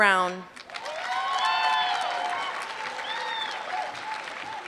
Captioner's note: applause